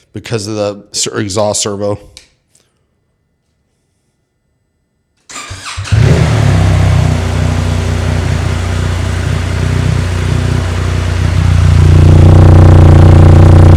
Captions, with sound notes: because of the exhaust servo. (engine revving Akrapovic exhaust)